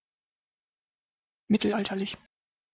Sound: fast Pronunciation

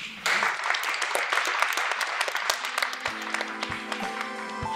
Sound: applauding; gentle music

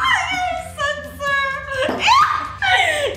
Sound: groans; laughs; screams

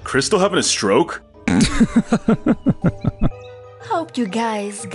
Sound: snickers

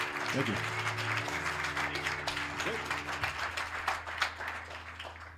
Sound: applause

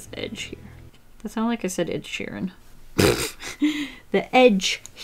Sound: laughs

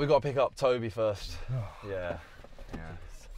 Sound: groan

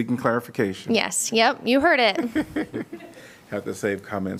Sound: laughter

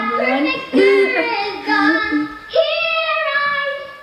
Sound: laughing

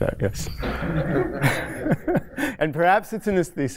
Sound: laughter

